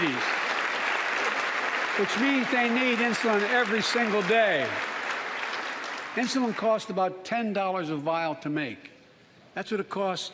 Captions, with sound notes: STANDING UP THERE, JOSHUA DAVIS. [ APPLAUSE ] HE AND HIS DAD BOTH HAVE TYPE 1 DIABETES. WHICH MEANS THEY NEED INSULIN